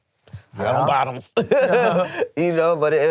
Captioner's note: laughs